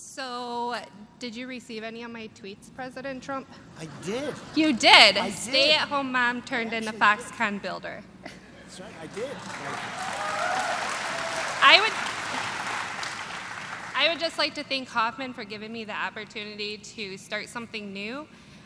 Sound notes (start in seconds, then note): 3.8 laughter; 8.2 laughter; 13.5 applause